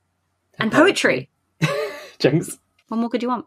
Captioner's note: laughs